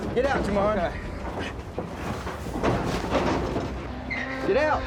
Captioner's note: grunting